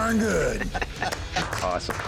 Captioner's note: laughter